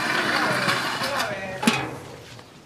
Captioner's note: cracking